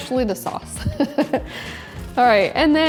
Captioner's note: laughs